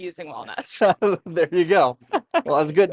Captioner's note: laughs; chuckles